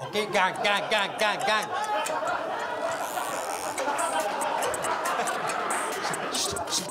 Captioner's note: laughs